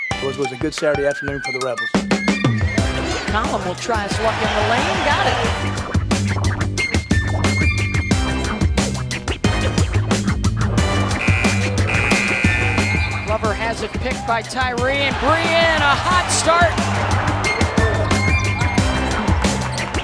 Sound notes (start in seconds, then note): 5.2 instrumental music; 11.1 buzzer sounds; 16.7 instrumental music